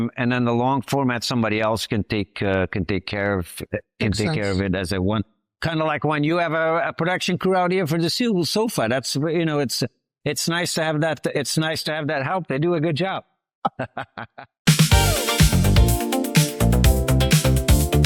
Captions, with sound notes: and then the long format, somebody else can take care of it as they want. - Makes sense. Kind of like when you have a production crew out here for the SOFA. That's, you know, it's nice to have that. It's nice to have that help, they do a good job. - (Laughs)